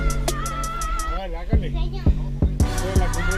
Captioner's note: foreign language